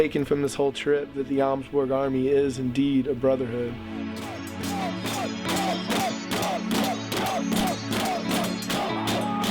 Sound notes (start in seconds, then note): 4.0 chanting